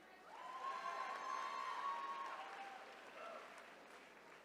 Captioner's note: attendees cheering